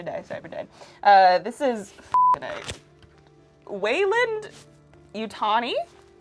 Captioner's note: beep